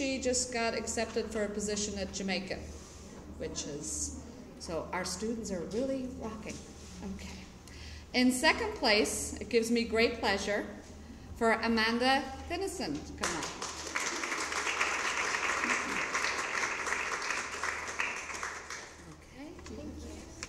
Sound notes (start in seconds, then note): 13.2 applause